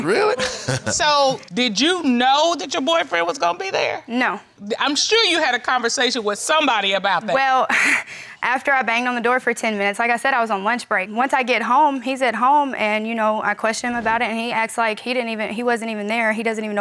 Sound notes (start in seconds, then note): 0.4 laughs